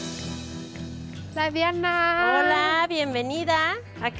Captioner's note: Pati and woman speaking Spanish